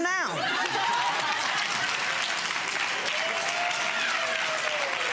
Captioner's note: audience laughing and applauding